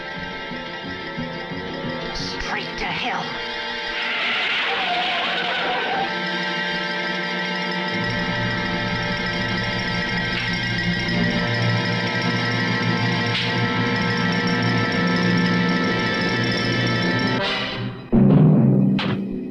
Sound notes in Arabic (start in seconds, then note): 3.4 اصرير الاطارات; 9.0 موسيقى متوترة